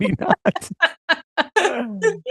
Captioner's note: laughs